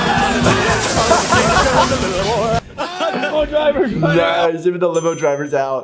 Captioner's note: laughing